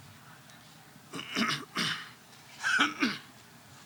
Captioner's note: coughs